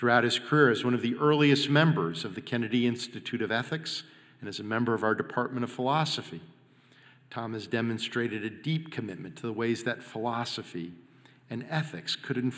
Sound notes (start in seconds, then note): none